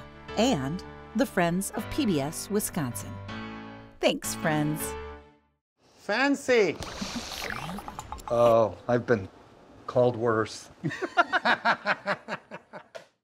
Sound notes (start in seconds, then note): 10.9 laughing